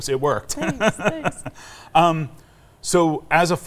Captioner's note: chuckling